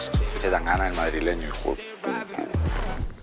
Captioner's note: distorted off voice